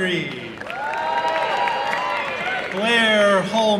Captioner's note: applause and cheering